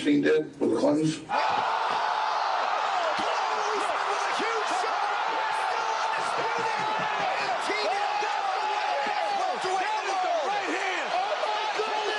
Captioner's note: screams